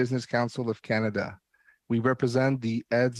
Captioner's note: speaking french